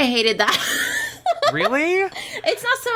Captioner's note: laughs